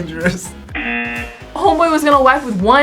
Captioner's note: laughs; buzzer rings